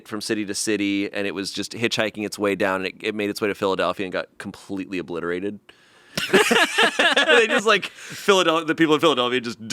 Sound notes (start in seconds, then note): 6.2 laugh